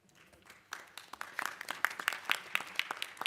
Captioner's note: applause